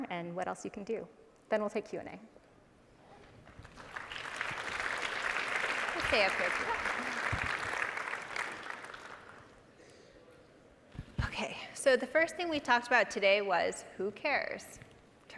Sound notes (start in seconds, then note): 3.4 audience applauding